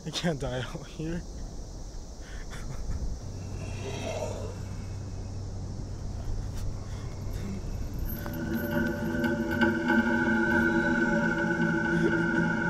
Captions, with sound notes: I can't die out here. (killer growls) (ominous music)